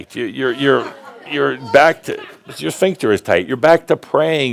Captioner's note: laughter, and shouts “Ohh!”